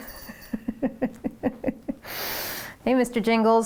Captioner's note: laughing